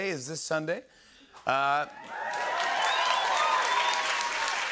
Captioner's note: cheering, whistling, and applause